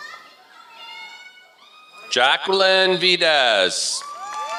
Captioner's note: applause